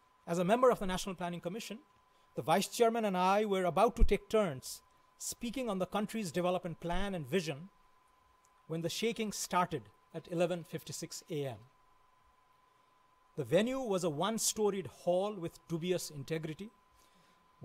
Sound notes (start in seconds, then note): none